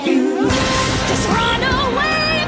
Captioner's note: lightning crackles